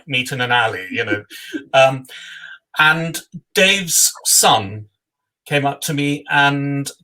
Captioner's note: laugh